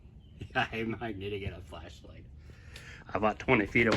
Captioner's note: laughs